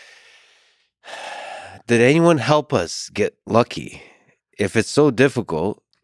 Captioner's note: sighs